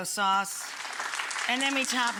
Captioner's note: audience applauding